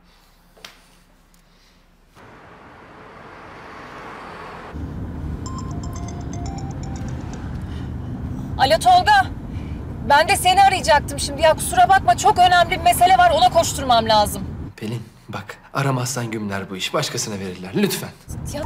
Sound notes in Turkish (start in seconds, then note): 2.2 Araba sesi; 5.4 Telefon zili sesi